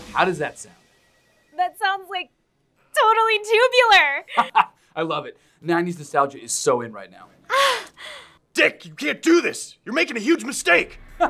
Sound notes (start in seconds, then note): 4.3 laughs; 7.5 excited exhaling